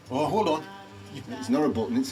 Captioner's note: laughs